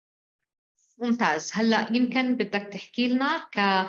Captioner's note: speaking arabic